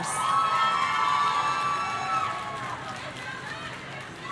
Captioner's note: audience cheering